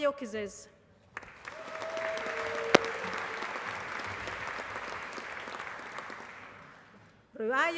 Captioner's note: applause